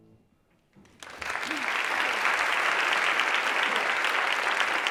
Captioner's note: applause